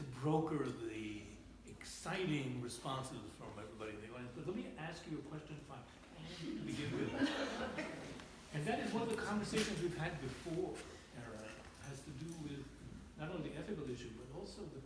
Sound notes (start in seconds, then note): 6.4 laughter